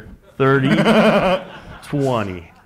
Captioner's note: laugh